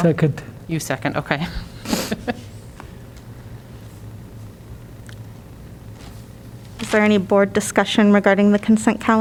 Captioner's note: laughter